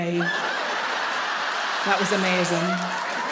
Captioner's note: audience laugh